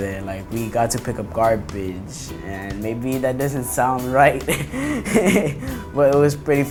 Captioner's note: laughs